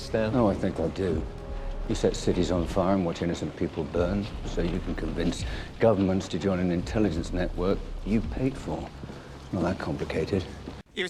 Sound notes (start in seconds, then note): none